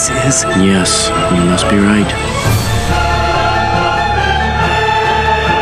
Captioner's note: sirens blair